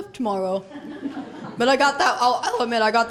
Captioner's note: laughter